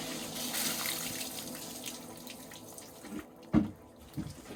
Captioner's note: water splashes